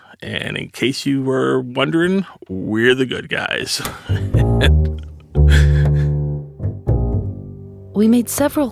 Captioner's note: laughs